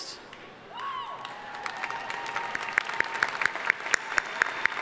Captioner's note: audience applauding